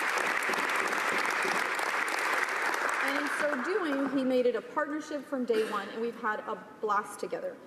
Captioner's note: applause